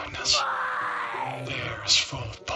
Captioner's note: screaming - Why?!